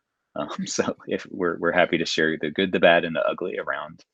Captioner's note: chuckling